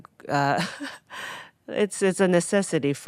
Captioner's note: Atsuko laughing